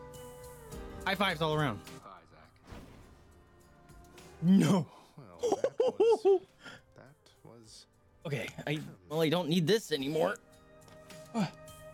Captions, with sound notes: High fives all around. No-*giggling like an idiot* Okay, I really don't need this anymore!